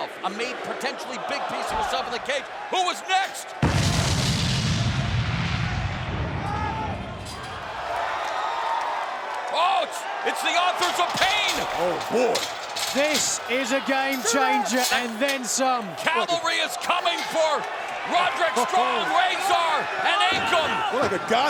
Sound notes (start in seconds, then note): 3.6 explosion sound effect; 8.0 fans cheering